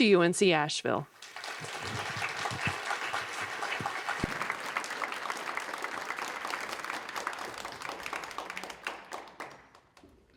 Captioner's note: applause